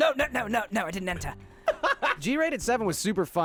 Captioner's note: laughing